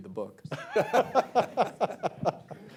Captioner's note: laughter